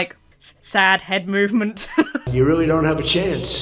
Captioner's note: laughs